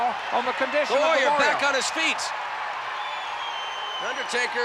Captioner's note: applause